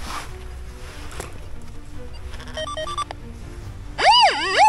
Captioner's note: squeaks